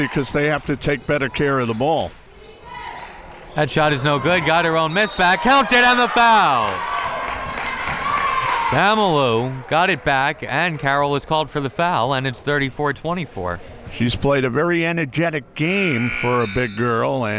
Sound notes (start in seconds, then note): 5.0 whistle tweeting; 8.0 crowd members clapping